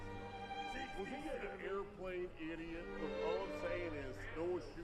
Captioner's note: patrons chattering indistinctly